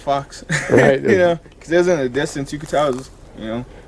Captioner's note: chuckles